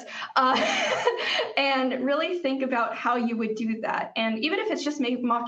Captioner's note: laughs